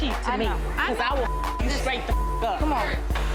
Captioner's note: beep